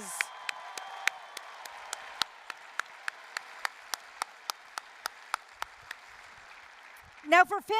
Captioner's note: applause, cheering